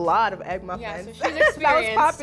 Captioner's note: laughs